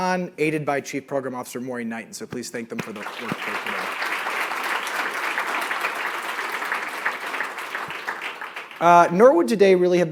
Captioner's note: applause